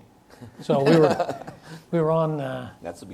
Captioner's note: laughs